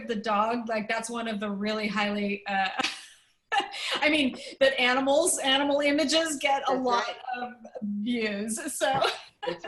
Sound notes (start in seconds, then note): 2.8 laughter; 8.9 laughter